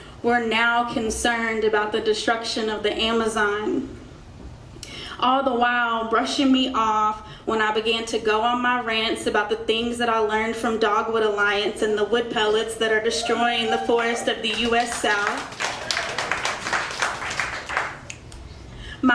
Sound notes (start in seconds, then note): 13.1 crowd cheers; 16.0 crowd applauds